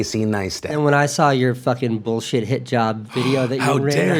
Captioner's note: gasp